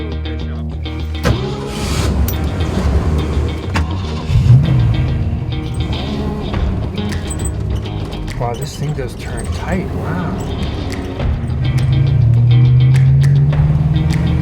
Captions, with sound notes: (car revving) Wow this thing does turn tight, wow!